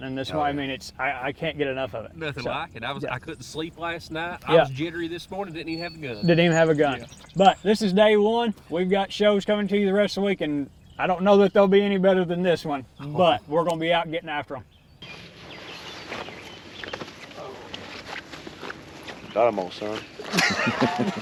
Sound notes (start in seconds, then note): 17.0 turkey thuds; 18.6 leaves rustling